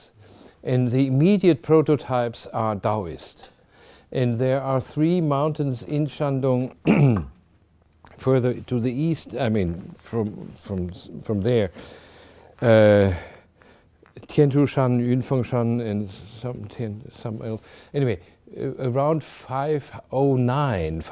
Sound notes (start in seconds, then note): 6.8 clears throat